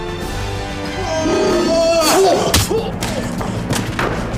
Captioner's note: roars; gasps